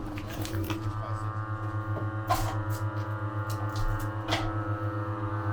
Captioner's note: machine buzzing